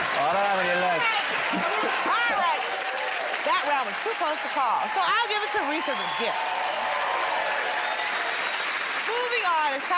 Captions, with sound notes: I don't have any left. -All right, that round was too close to call, so I'll give it to Rhys as a gift. [ Cheers and applause ]